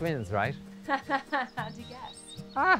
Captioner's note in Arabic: يضحك